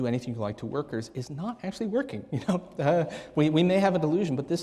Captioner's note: chuckling